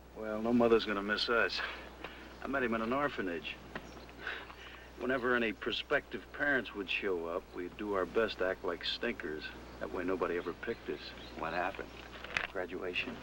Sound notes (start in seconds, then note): 4.3 chuckles